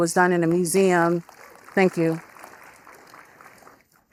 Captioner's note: audience applauding